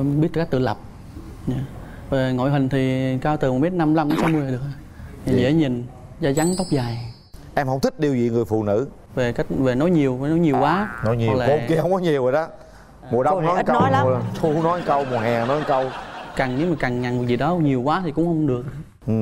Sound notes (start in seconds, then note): 10.5 laughing